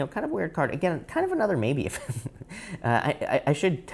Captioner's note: laughs